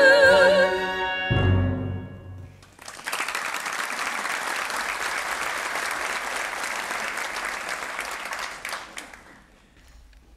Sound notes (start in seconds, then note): 2.5 audience applauding